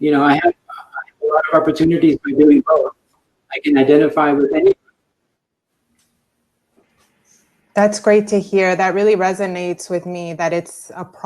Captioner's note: broken audio